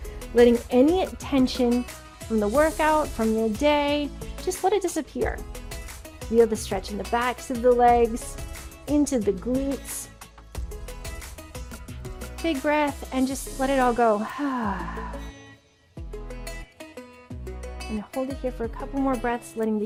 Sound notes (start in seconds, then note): 14.2 exhales